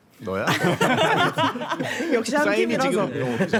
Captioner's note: laughter from the start